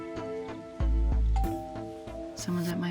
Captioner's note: doorbell ringing